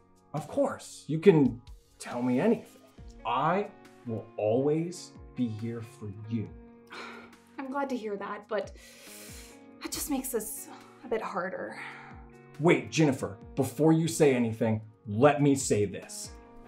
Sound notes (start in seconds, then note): 6.8 exhales loudly; 8.7 inhales loudly